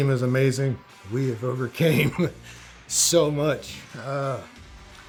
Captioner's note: laughs